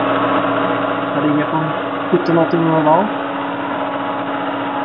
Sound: engine

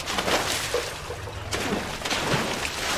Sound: water splashing

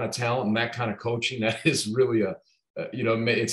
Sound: laughing

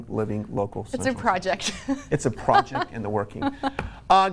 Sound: laughs

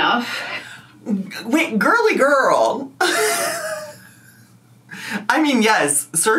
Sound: laughs

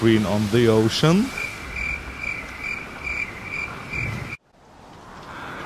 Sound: crickets chirping

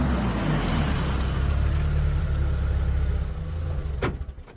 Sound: vehicle screeches

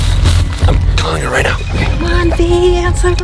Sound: phone rings

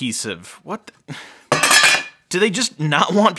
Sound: hard drive lid clanking

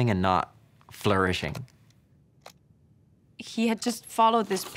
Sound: projector slides click

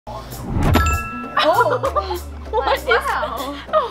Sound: laughing

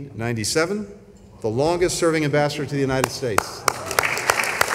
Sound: applause

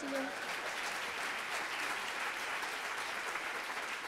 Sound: audience applauds

